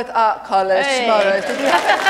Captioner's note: applause